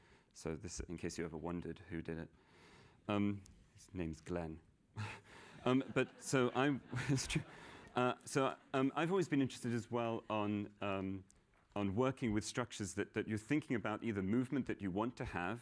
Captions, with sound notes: So, in case you ever wondered who did it-- his name's Glenn. [laughter] But so I've always been interested, as well, on working with structures that you're thinking about either movement that you want to have-- which